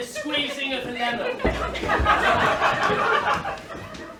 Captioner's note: laughter